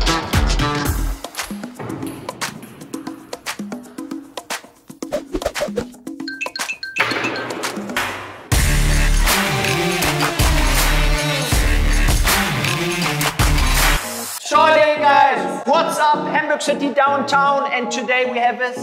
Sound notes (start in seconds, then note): 5.0 head swooshing; 8.5 rhythmic music